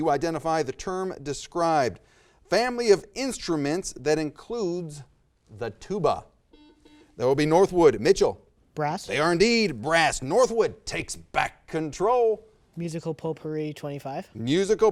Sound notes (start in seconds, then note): 6.5 buzzer